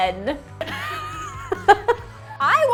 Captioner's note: laughing